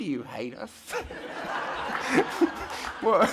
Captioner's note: audience laughter